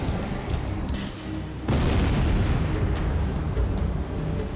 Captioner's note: explosion booming